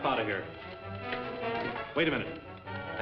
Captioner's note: timer ticking